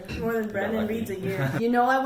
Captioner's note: sad laughter